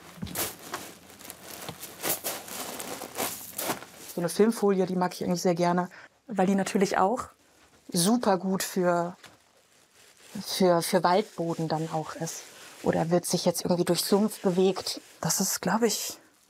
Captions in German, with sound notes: (Rascheln) Filmfolie mag ich eigentlich sehr gern. Weil die natürlich auch supergut für ... Waldboden dann auch ist. Oder wird sich jetzt durch Sumpf bewegt, Das ist, glaub ich, ...